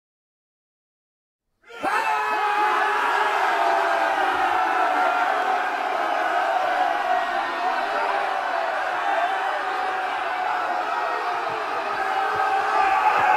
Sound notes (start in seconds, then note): 0.0 sound of people screaming